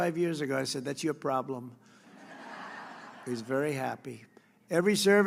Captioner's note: laughter